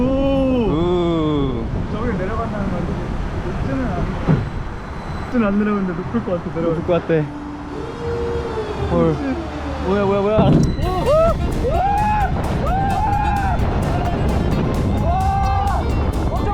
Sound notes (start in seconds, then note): 7.6 suddenly, a siren noise?